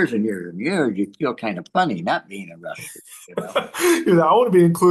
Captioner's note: laughs